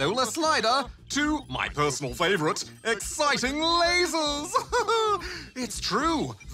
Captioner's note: laughs